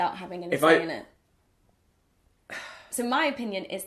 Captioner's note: sighs